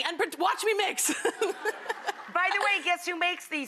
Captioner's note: laughter